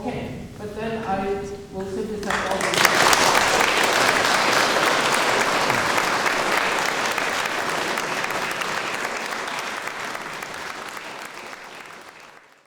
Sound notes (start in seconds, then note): 2.2 applause